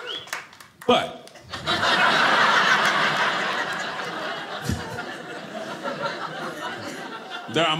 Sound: audience laughing

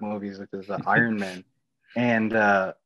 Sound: laughing

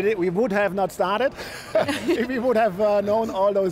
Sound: all laughing

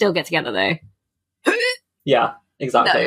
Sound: gags

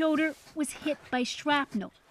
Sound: speaking Foreign Language

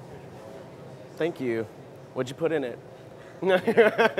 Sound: laugher

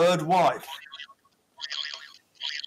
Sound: boing

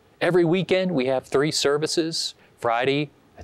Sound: none

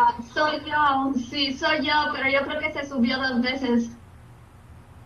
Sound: speaking in Spanish

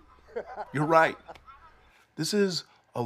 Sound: laughs

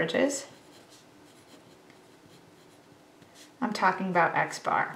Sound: pen scribbles

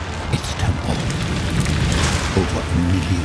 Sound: fire crackling

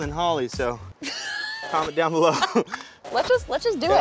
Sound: laughs

